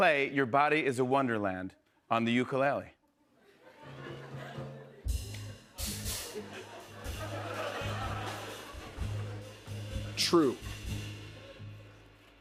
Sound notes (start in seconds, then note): 3.2 laughter